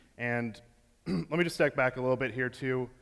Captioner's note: clears throat